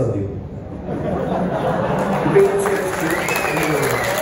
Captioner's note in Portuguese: risos, seguidos de aplausos